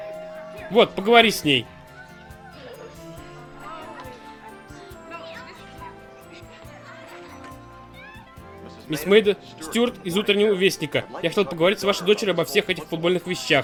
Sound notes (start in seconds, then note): 0.0 doorbell rings; 2.3 chatter